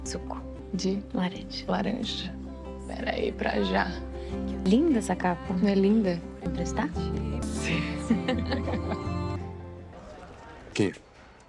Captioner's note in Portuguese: risadas